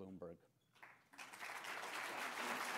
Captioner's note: applause